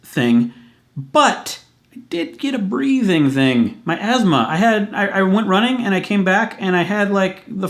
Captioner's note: breathing